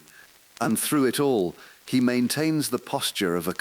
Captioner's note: exhale